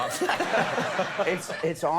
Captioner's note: laughing; audience laughing